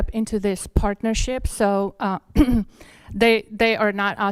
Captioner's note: clears throat